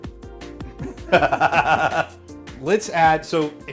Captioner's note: laughs loudly